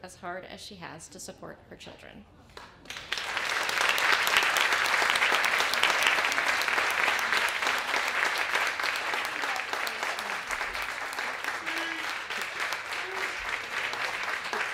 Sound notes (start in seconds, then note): 2.5 applause